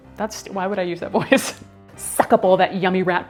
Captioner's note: laughs